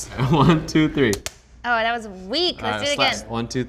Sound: gloves snapping

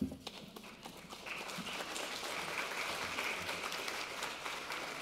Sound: audience clapping

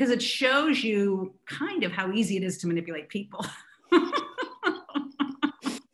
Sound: laughs

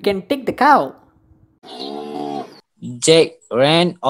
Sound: cow moo

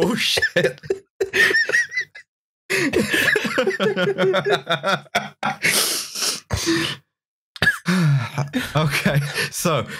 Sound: laughter

